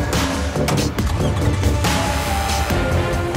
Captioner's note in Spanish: Sonido al cerrar las puertas; Sonido al arrancar el motor